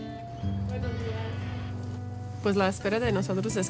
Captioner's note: speaks in foreign language